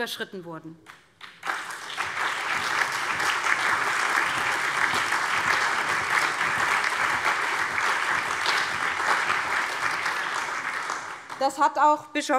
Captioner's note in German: Allgemeiner Beifall